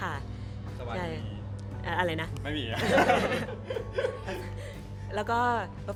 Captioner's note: laugh